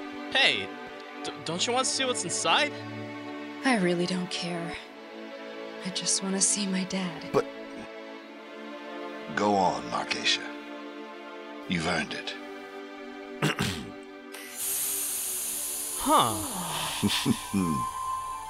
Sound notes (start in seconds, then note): 13.4 clears throat; 14.4 box hissing open